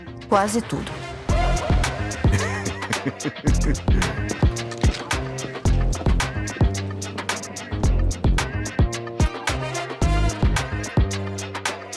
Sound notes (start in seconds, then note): 2.1 laughs